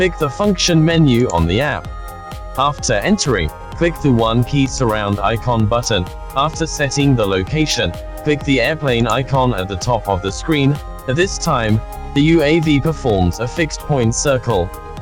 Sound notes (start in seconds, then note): 5.0 fly surrouding